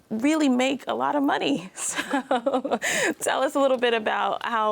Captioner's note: chuckles